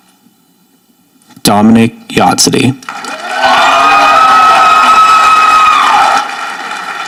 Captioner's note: audience applauding